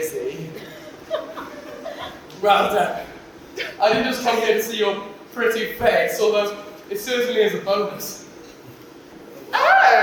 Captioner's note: laughs nervously